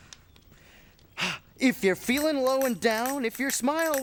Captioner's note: exhales